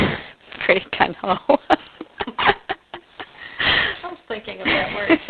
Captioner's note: laughs